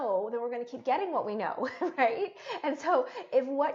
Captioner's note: chuckling